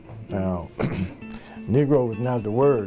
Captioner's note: throat clearing